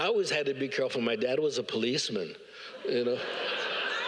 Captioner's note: all laugh